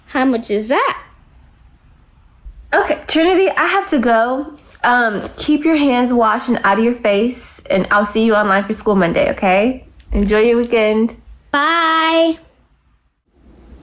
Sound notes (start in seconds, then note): none